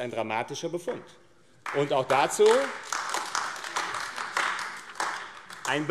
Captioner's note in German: Beifall AfD